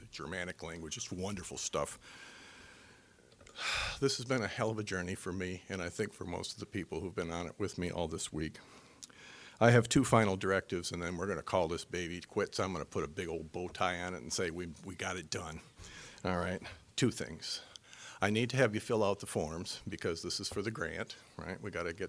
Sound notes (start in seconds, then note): 3.5 sighing